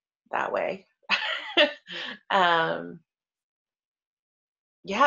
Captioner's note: laughs